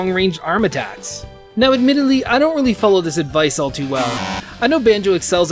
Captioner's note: Banjo-Kazooie fail sound